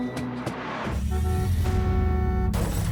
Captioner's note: glass shatters; vehicle honks